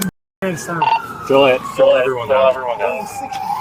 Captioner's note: radio chatter